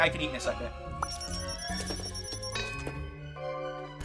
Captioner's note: comical music; timer beeping; bell clangs